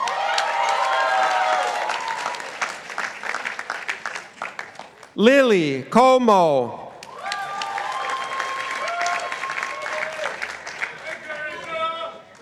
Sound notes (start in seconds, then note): 0.0 participants applauding; 7.0 participants applauding